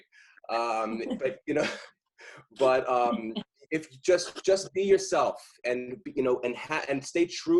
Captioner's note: laughter